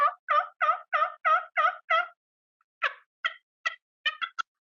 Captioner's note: turkey call sounds